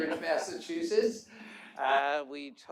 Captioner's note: laughter